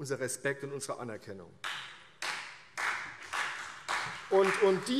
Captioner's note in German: Beifall CDU und BÜNDNIS 90/DIE GRÜNEN